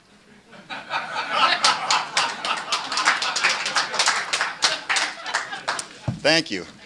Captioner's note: laughter and applause